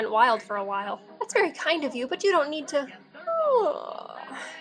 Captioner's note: yawn